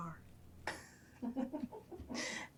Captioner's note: Paulina and Abby laughing